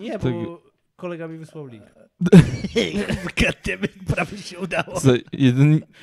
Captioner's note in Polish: śmiech